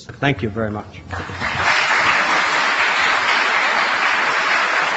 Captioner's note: applause